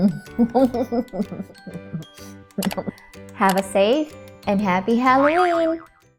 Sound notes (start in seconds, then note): 0.0 chuckles; 5.6 boing